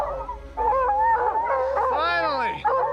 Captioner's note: barking continues